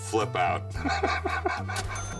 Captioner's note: laugh